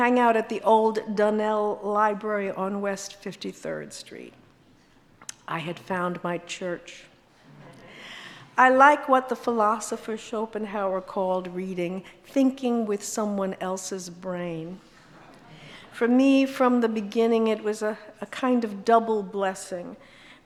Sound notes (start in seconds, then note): 7.5 audience laughs